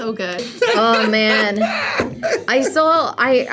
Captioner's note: laughs